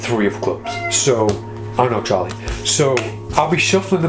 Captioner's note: Charlie meows